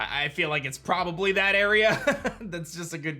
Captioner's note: chuckles